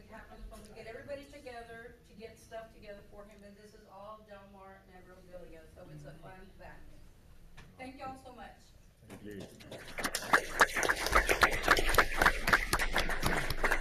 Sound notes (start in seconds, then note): 9.4 audience applauds